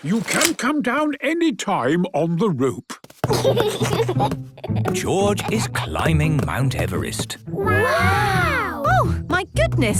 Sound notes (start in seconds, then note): 3.3 giggles